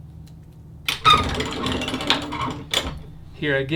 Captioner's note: lever grinding